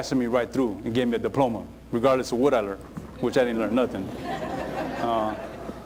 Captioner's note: laughter